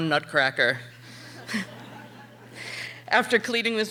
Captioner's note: audience laughing